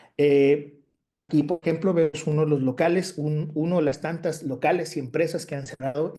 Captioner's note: continues speaking Spanish